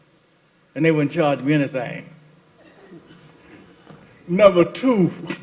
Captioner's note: laughter